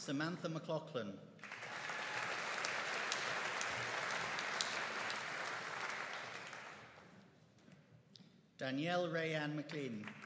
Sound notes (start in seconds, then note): 1.4 audience applauding